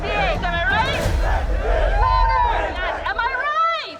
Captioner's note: crowd cheering